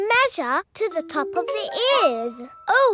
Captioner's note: none